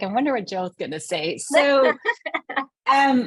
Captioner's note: laughing